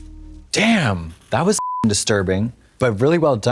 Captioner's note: beep